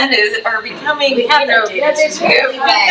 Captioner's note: trustee faintly speaking